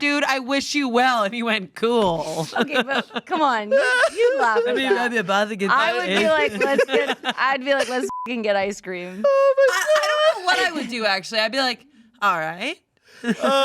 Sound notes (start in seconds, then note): 8.0 beep